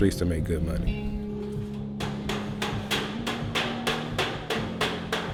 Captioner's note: hammering